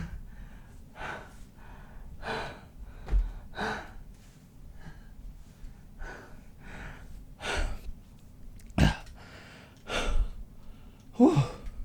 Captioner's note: out of breath